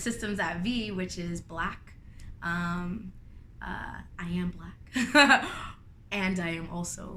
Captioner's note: laughter